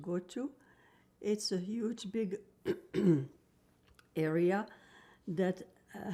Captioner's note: clears throat